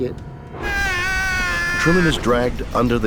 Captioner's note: man screaming